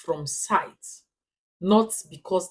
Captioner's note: paause